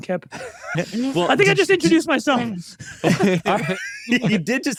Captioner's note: laughing